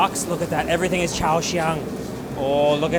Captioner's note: foreign language